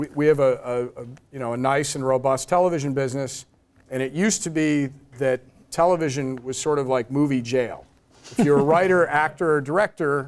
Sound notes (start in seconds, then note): 8.3 laugh